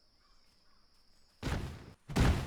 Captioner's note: bang!